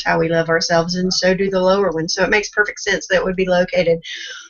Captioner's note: none